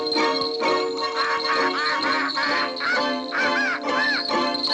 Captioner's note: squawking